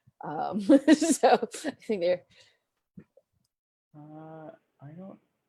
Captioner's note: laughs